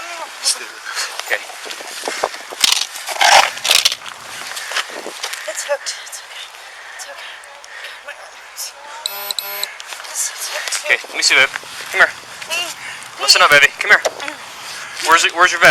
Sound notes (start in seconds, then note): 9.9 groans